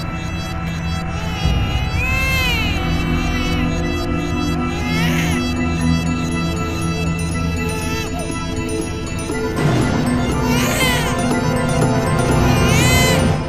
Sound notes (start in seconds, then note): 1.0 baby crying; 9.8 crying continues